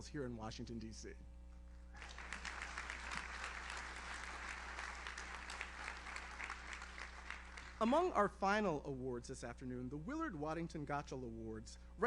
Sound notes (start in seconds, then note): 1.9 audience applauds; 2.1 audience member cheers